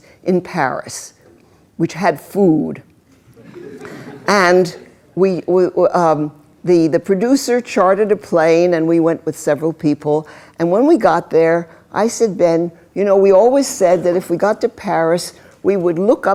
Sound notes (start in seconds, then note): 3.3 laughter